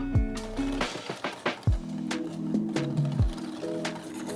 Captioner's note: whisking